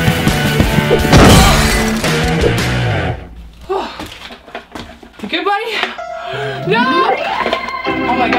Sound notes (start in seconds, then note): 1.0 crash